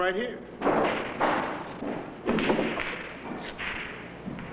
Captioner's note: balls clanging